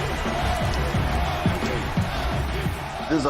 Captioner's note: crowd continues cheering